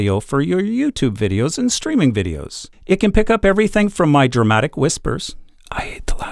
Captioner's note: whispers